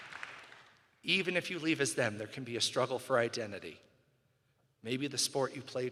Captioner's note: cheering and applause